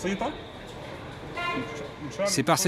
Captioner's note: horn honking